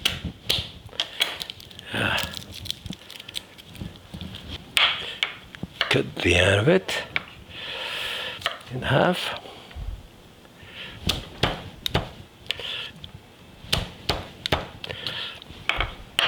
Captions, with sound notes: (knife crushing) Ah. Cut the end of it. In half. (knife crushing)